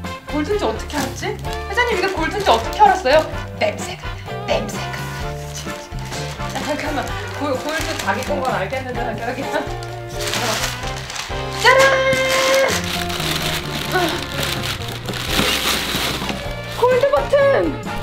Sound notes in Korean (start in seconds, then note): 5.9 웃음; 10.7 바스락; 12.9 바스락 소리